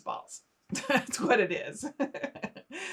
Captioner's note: laughing